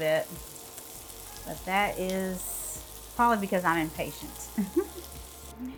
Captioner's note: chuckles